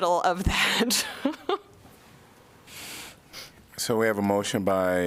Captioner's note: laughter